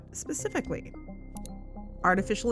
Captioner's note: click